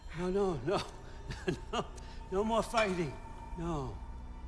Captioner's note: laugh